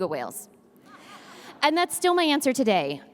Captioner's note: audience laughs